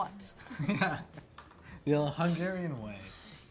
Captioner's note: laughing